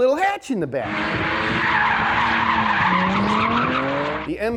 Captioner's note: tires squeal